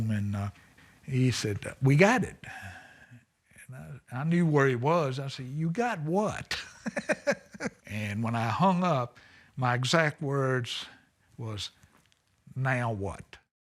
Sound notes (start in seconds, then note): 6.5 laughs